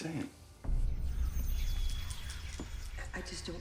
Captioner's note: mysterious music; ominous whispers